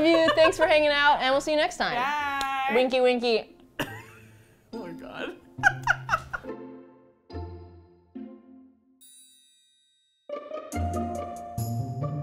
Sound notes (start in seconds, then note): 0.0 laughs; 5.6 laughs; 7.6 upbeat music